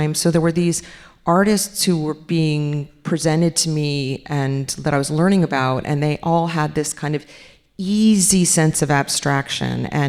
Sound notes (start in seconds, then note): none